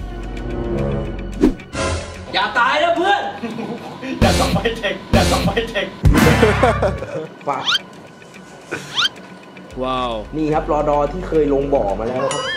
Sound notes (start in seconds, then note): 6.5 laughs